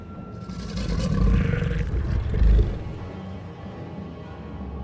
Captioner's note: growling